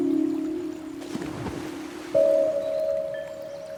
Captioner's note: splash of water